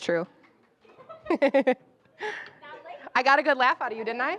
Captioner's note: laughing